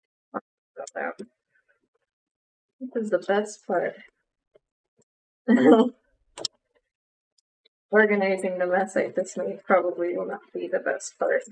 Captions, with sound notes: POP THOSE OUT THIS IS THE BEST PART [LAUGHS] ORGANIZING THE MESS I THIS MADE PROBABLY WILL NOT BE THE BEST PART